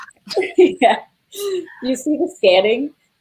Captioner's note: laughs